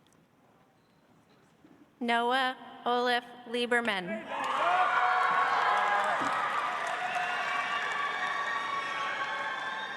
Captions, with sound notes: Noah Oliff‑Lieberman. (audience applauds)